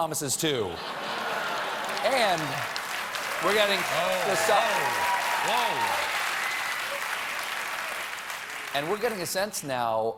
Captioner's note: applause